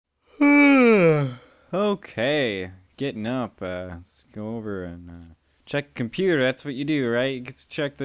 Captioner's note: yawn